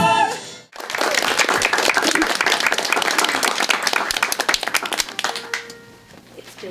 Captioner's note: applause